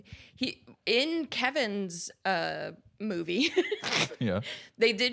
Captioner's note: laughs